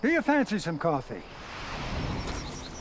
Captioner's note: birds chirping